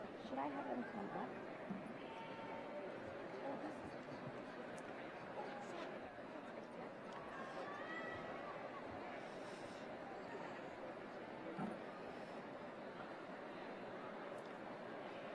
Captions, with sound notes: Should I have them come up? [CHATTER]